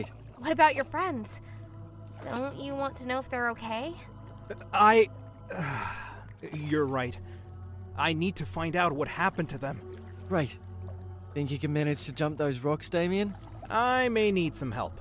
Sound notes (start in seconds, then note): 5.4 sighs